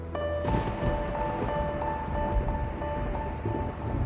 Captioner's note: thunder crashes